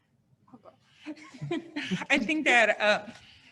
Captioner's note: laughs